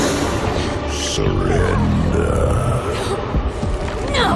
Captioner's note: demonic groan; demonic voice